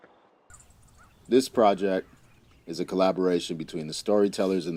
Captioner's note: birds chirping